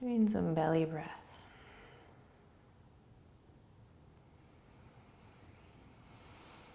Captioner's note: breathing